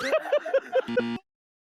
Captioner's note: burst into laughter x 2